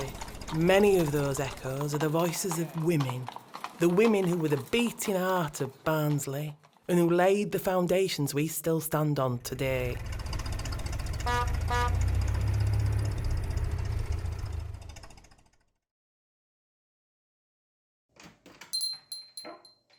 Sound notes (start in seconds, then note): 11.2 car horn beeps; 18.7 shop door bell tinkles